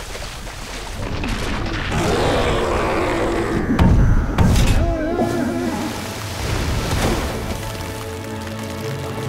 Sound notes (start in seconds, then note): 1.6 roaring; 3.7 thudding